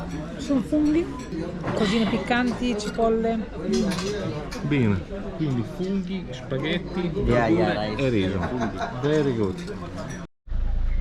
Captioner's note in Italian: risate